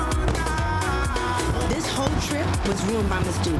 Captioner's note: fireworks popping